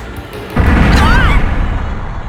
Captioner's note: panicked cry